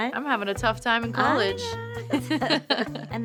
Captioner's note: both laugh